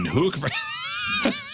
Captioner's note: laughing